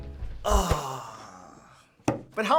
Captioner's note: groaning